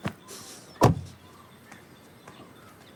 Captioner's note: weeping